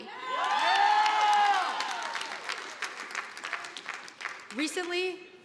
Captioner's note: audience applauding